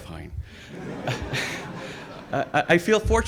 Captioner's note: audience laughs